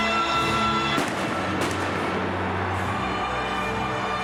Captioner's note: crowd cheers enthusiastically; fireworks erupt